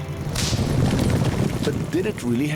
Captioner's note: cracking; pattering